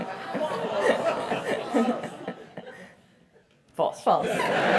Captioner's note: laugh; laugh